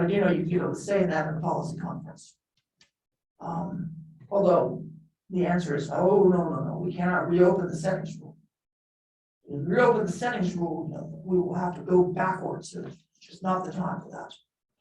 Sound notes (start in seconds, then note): none